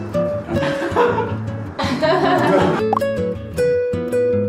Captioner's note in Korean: 웃음